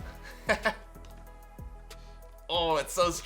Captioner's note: laughs